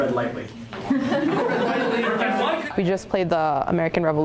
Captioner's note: class laughs